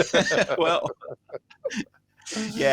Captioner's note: laughter